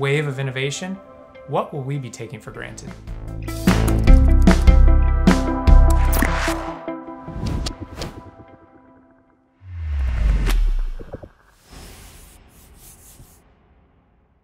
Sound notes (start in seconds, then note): 2.6 upbeat music; 7.0 logos whooshing